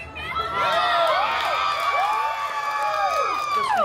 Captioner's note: guests cheering and applauding